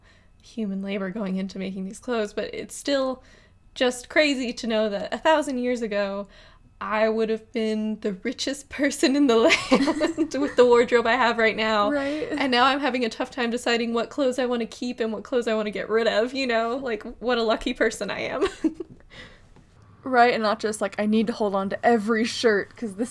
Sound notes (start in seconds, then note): 9.5 laughs